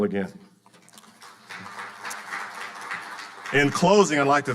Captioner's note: audience applauding